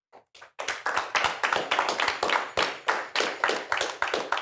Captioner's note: applause